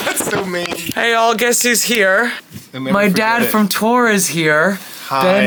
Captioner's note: none